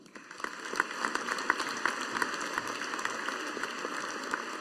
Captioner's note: audience applauding